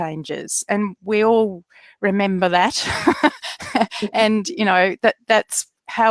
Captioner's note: laughs